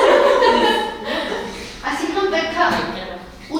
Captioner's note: laughing